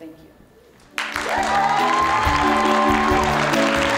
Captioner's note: audience cheers; cheery music; audience applauding